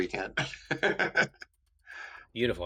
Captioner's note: laughing